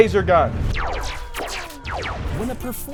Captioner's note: laser beams swooshing